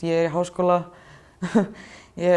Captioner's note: laughs